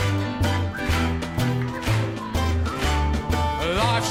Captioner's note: whistles